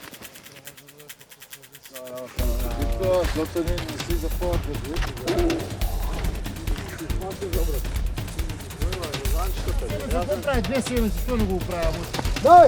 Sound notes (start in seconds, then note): 3.2 intense music; 9.8 drivers chattering